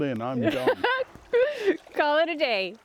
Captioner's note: laughing